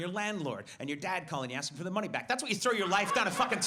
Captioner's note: audience laughs